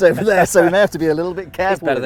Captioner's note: laughing